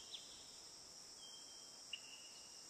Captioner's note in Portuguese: cantar de pássaros